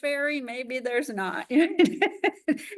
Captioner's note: laughs